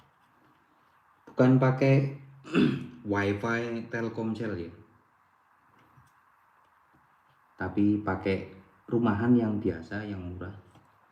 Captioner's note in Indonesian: berdehem